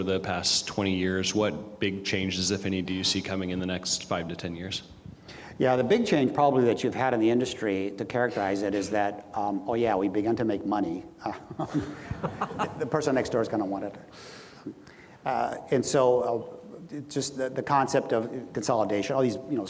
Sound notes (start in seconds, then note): 11.5 audience laughs